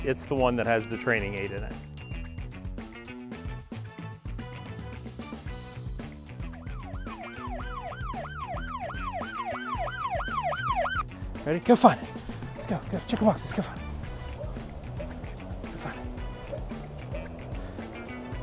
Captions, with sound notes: it's the one that has the training aid in it. (upbeat music) (siren blaring) - Ready? Go find it. Let's go, go check a box. Let's go find it. Go find it.